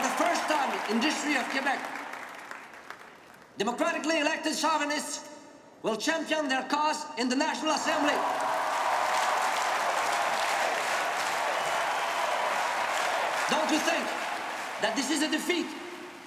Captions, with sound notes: For the first time in the history of Quebec democratically elected sovereignists will champion their cause in the National Assembly. (crowd cheering and clapping) Don't you think that this is a defeat